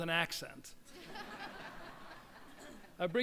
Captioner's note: crowd laughs